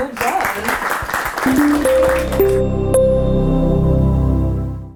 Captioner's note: audience applauds